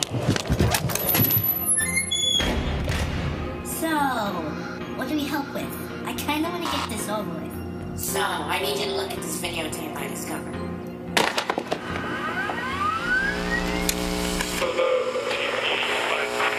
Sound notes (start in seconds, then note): 11.7 DVD Player starts up; 11.9 Static